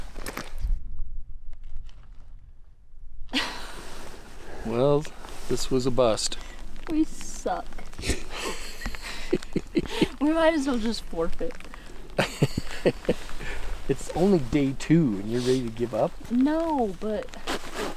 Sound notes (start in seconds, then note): 8.0 laughing; 12.1 laughing